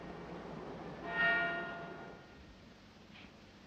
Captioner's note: church bell tolling